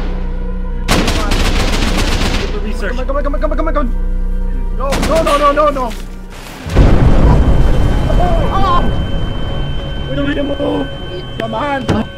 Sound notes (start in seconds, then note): 0.9 gunfire; 6.5 ears ringing; 6.7 boom